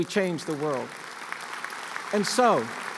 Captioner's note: applause